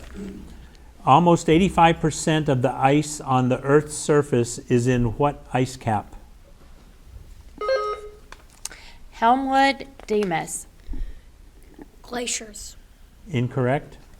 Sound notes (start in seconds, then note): 6.6 button buzzing